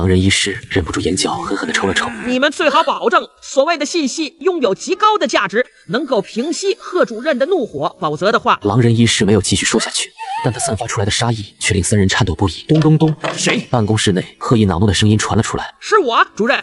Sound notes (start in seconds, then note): 12.7 knock knock knock